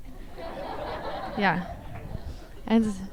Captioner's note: audience laughs